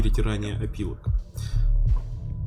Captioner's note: nervous inhale